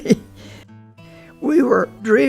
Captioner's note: laughs